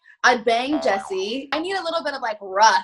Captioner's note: springing tones